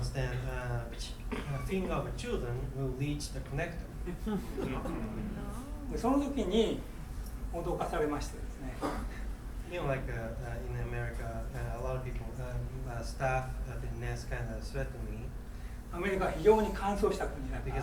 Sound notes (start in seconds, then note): 0.9 coughing; 4.1 crowd murmuring; 6.2 speaking in foreign language; 8.8 coughing; 16.1 speaking in foreign language